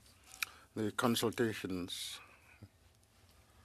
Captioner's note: speaking French